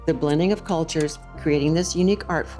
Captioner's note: slide projector clicks